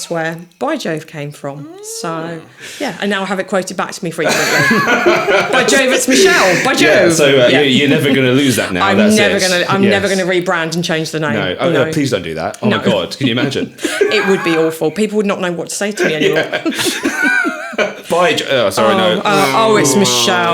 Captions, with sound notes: where By Jove came from. So yeah, and now I have it quoted back to me frequently (laughing) By Jove, it's Michelle, by Jove. So you're never gonna lose that now, that's it. I'm never gonna rebrand and change the name. No, please don't do that. Oh my God, can you imagine? It would be awful. People would not know what to say to me anymore. (laughing) By Jove, sorry, no. Oh, it's Michelle.